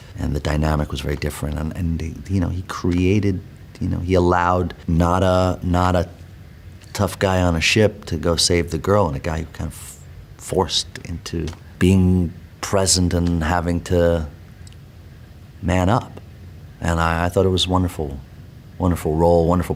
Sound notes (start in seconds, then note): none